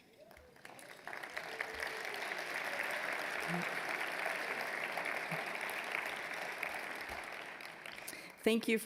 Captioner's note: applause